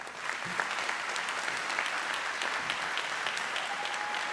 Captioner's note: audience applauds